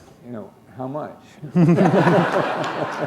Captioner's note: laughter